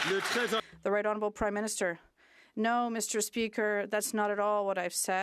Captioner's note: some Applause